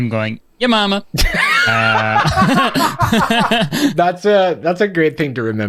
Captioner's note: laughs